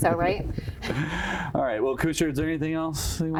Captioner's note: chuckles